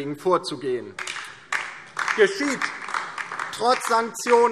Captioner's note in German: Beifall DIE LINKE